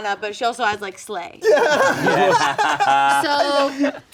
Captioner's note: everyone laughing